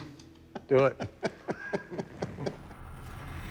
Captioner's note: laughter